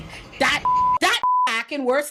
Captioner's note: beep